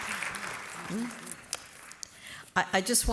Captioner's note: applause